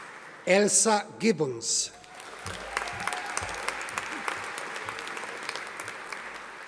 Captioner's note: audience applauding